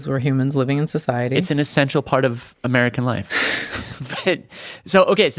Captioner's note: laughs